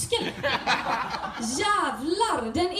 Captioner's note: audience: LOOOL